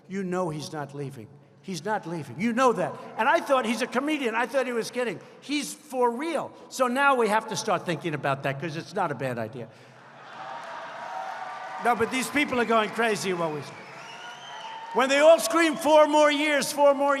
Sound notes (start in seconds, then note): 10.2 applause